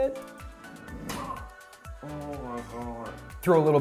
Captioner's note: grunts